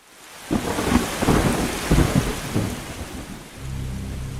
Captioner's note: rain pattering; thunder roaring; tense music